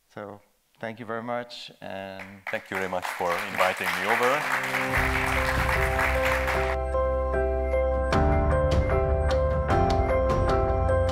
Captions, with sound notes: So thank you very much and- - Thank you very much for inviting me over. (audience applauding) (upbeat music)